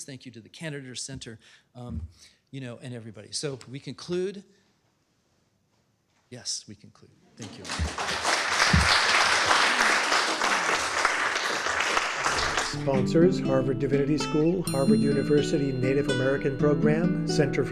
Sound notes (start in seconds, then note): 9.8 applause